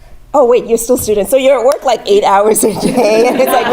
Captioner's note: laugh